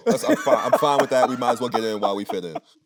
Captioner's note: Anthony laughing